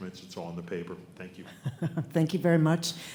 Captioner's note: laughing